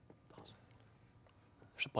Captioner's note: all whispering